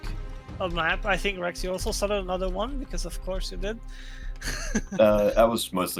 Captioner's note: crunching chuckle